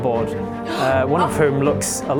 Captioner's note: gasp